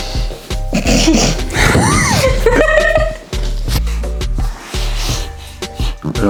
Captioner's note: laughing